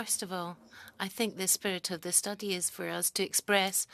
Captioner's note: speaking French